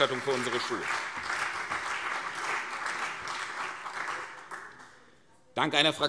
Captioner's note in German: Beifall CDU, BÜNDNIS 90/DIE GRÜNEN und auf der Regierungsbank